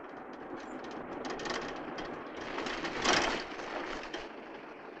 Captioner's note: car engine rattling